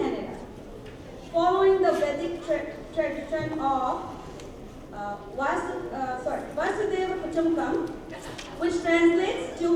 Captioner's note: non-english